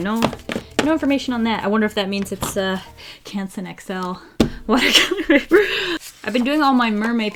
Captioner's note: laughs